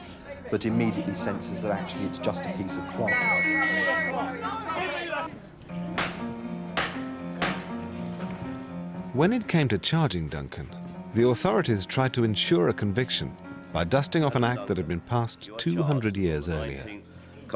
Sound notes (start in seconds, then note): 3.0 whistle blows; 6.0 gavel taps